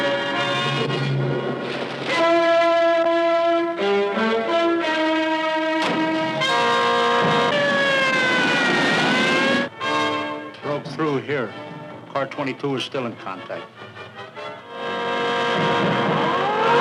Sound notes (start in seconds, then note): 8.1 siren wailing; 14.3 suspenseful orchestral music